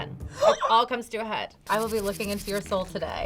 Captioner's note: gasps